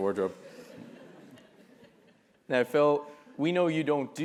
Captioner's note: laugh